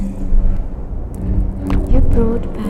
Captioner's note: mechanical creaking